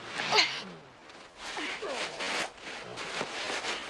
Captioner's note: grunting